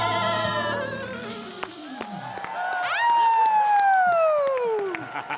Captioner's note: cheering and applause